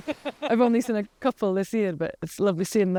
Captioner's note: Kate laughing